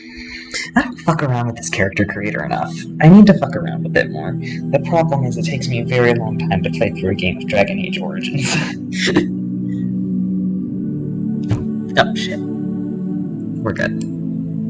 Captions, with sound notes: I don't fuck around with this character creator enough. I need to fuck around with it more. The problem is it takes me a very long time to play through a game of Dragon Age: Origins. [Laughter] No! Shit! We're good.